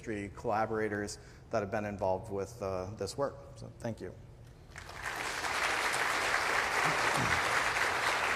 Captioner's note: applause